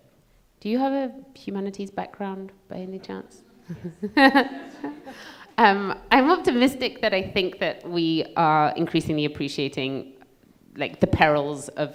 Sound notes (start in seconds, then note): 3.6 laughs; 3.7 audience laughing